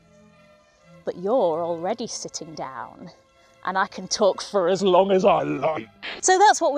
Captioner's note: scary voice